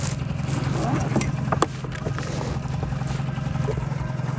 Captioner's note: zipper buzzes